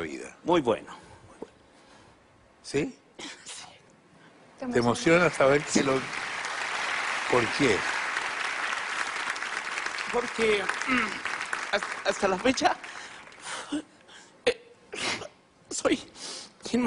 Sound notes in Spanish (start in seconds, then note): 7.3 aplausos; 10.8 carraspea